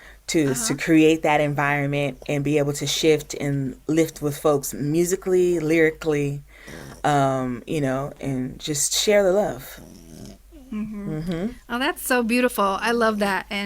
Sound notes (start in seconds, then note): 6.6 Chorizo snorts; 9.5 Chorizo snorts again